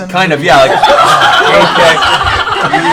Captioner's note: laughter